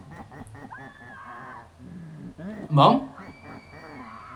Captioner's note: scream heard through walls